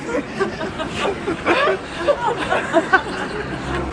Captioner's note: laughter